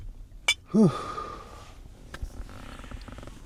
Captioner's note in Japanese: ため息